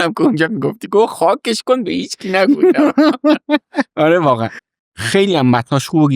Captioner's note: laughs